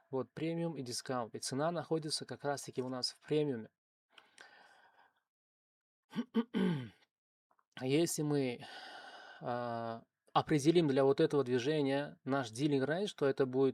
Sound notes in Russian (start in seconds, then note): 6.1 кашель; 6.1 откашливается